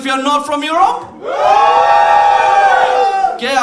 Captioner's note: cheering